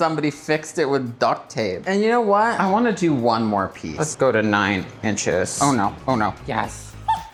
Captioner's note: laughs